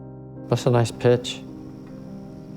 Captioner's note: voiceover